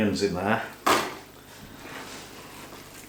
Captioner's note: clunk